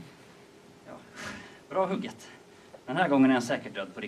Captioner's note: breathes out